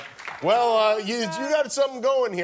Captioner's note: applause